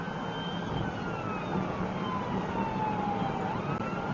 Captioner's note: police car siren